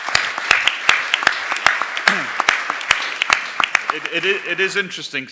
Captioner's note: applause